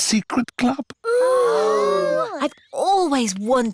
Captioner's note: all gasp